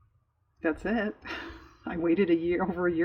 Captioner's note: laughs